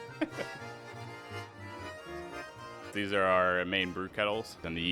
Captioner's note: laughing